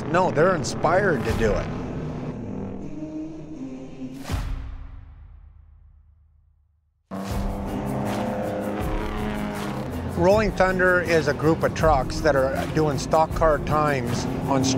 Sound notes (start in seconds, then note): 7.1 semi's engines roaring; 7.1 upbeat music